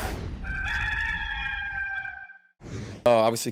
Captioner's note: rooster crowing